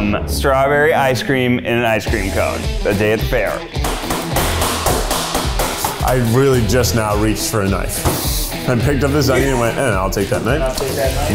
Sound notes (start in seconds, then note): 3.8 knife banging